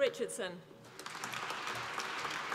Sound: applause

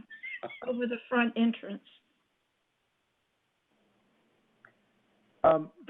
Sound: laughter

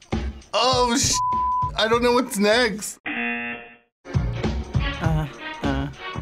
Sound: buzzer rings; buzzer rings

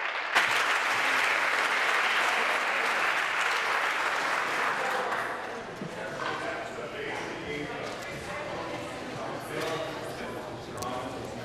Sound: applause

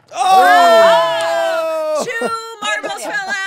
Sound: shouting

